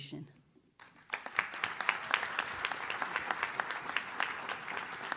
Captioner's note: audience claps